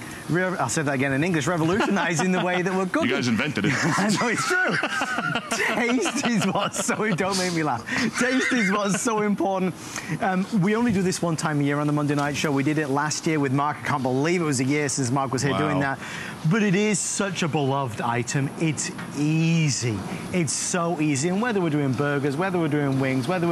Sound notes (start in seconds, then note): 3.3 laughter